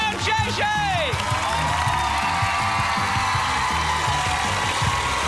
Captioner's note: cheers and applause